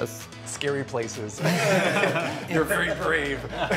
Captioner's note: all chuckling